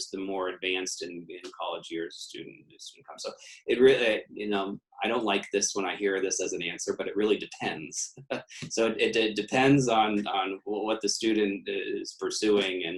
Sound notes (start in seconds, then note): 8.2 laughs